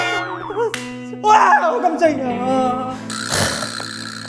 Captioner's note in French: Criant jusqu'à la fin